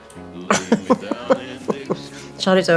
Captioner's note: laughter